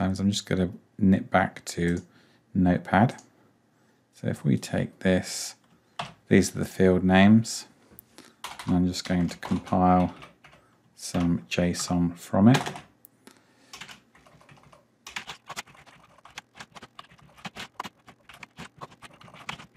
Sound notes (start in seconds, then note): 15.0 keyboard typing